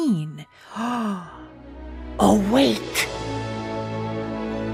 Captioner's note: gasp